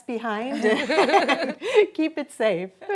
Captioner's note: laughing